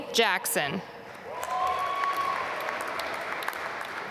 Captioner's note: applause